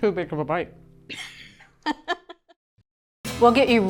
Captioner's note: laughing